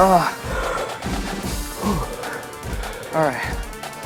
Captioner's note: both gasping for breath